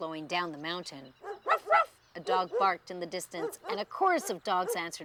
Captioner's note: dog barking